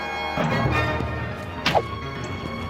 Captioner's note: arrows being fired